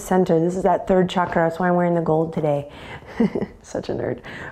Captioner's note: chuckles